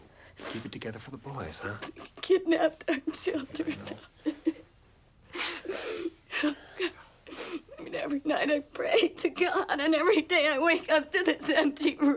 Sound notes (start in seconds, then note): 1.9 sobs; 7.2 sobs